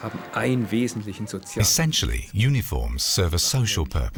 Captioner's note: speaking german